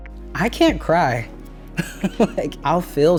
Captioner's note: chuckles